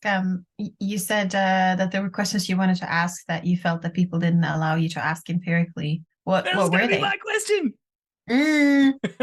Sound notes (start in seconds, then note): 6.2 excited; 9.0 laughs